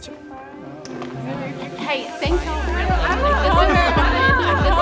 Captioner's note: group chattering; guitar music